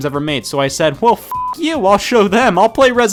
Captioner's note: beep